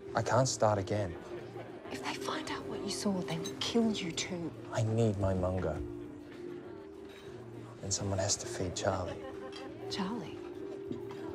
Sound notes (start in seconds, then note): none